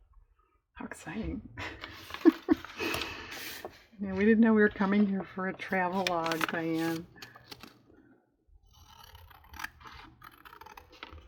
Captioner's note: laughs